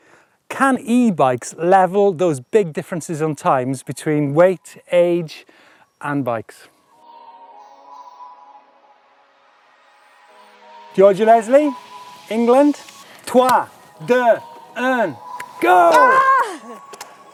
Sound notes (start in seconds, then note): 6.8 soft music; 13.3 speaks in foreign language